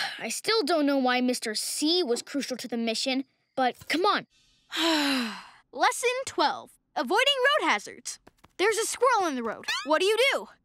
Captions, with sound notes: I still don't know why Mr. C was crucial to the mission, but come on. [sighing] Lesson 12: Avoiding road hazards. There's a squirrel in the road. What do you do?